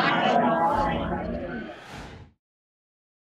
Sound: whoosh

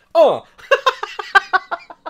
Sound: laughs

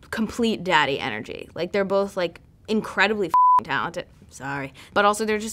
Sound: beep

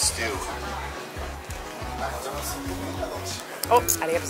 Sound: drooling

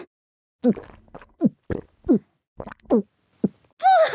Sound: gulp gulp gulp gulp gulp

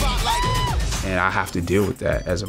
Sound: Nakia screaming

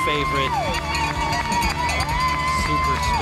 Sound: crowd cheering and applauding

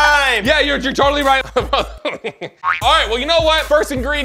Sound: laughing

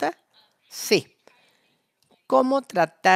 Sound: a través de intérprete

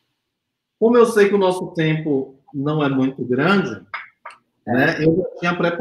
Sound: speaks portuguese

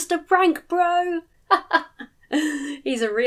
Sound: chuckles

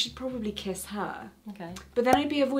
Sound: cork popping

